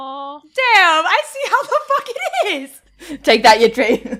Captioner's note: laughing; laughs